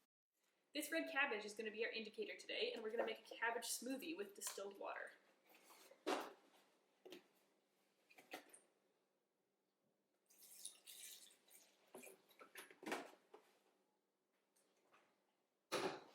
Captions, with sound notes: This red cabbage is going to be our indicator today, and we're gonna make a cabbage smoothie with distilled water. (water pouring)